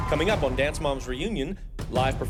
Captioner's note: cheers and applause